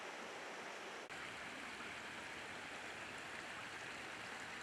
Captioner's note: water babbling